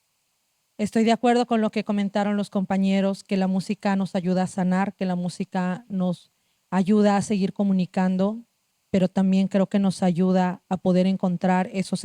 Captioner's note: speaking Zapotec language